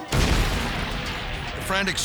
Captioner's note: fire roars